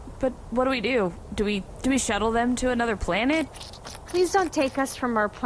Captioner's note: wet footsteps